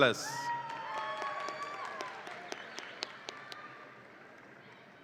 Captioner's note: audience applauds and cheers